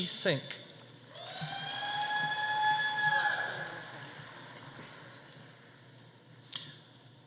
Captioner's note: audience cheering; audience applauding